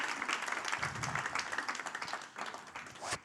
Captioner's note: audience applauding